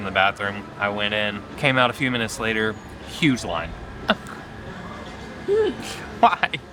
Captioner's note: laughs